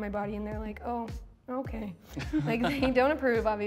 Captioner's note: laughter